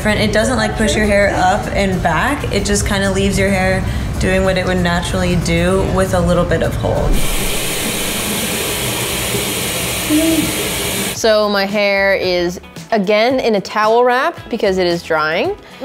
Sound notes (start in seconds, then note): 6.9 water running